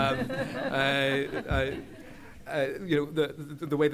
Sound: laughter

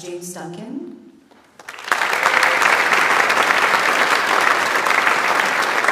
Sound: audience applauds

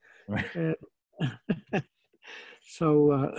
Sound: laughing

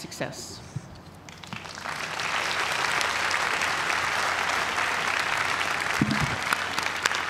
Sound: applause

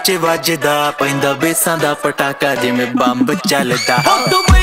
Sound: echo on speakers give feel of bombs

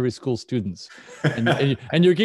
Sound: laughs

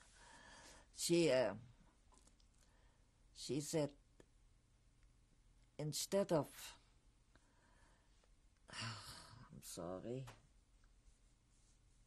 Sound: sighs

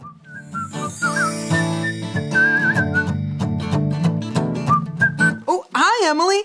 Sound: whistling; acoustic guitar music

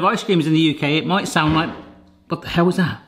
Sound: pounding reverberates

